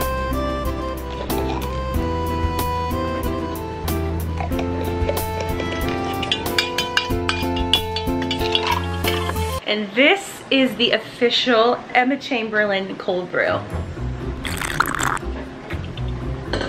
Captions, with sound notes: (soft guitar music) (spoon clicking on cup) And this is the official Emma Chamberlain cold-brew. (sipping on coffee)